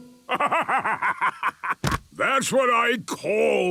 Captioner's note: bursting laughter